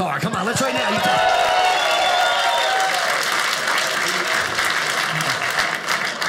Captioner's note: audience applauding